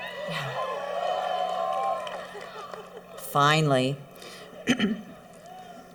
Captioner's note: cheering